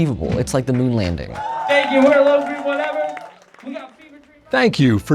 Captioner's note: applause